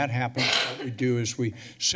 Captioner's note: coughing